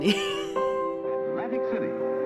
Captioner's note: laughing